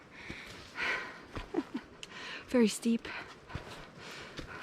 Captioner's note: laughing